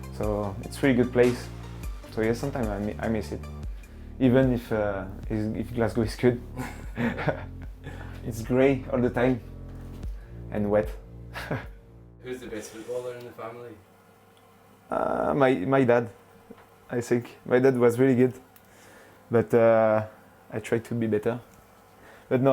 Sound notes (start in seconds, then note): 6.5 chuckles